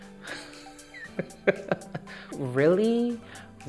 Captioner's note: laughs